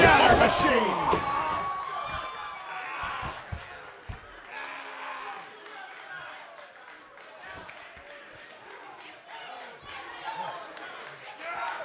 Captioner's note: crowd cheering